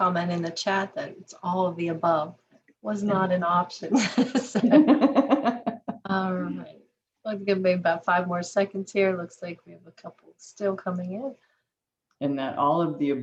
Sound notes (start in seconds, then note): 7.4 laughter